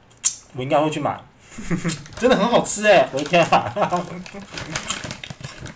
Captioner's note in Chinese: 笑聲